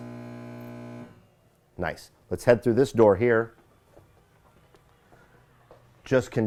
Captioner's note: buzzer sounds